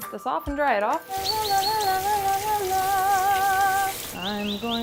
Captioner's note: singing; birds chirp